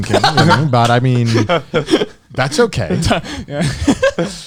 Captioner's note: chuckling